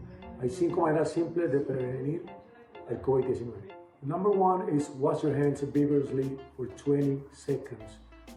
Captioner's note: \repeating in spanish\